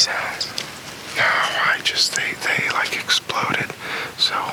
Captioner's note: whispers